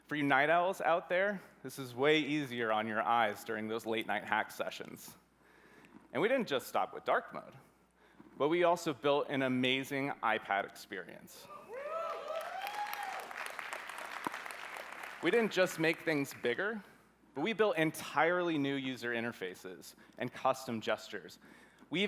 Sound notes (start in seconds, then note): 11.6 cheering